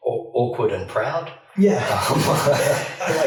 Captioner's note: laughs